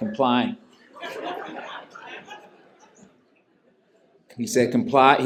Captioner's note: laughter